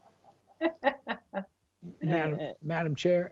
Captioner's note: laughing